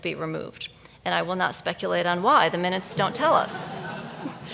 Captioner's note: audience laughs